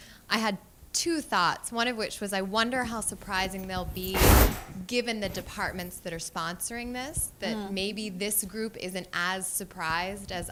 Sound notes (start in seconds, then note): none